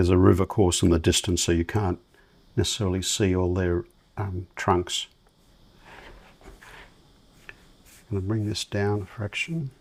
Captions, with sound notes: There's a river course in the distance, so you can't necessarily see all their trunks. [silence] I'm going to bring this down a fraction.